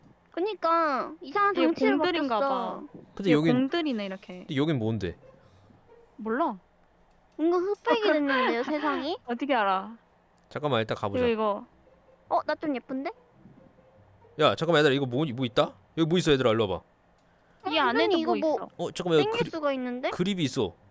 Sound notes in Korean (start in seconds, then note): 13.3 조용